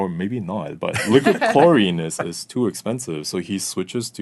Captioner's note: laughing